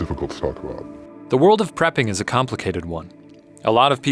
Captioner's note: voiceover